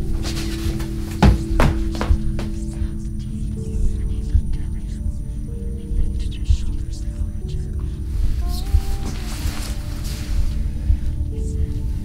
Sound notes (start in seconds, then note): 2.5 soft whispering